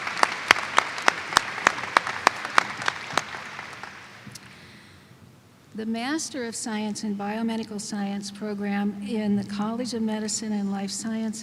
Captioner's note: applause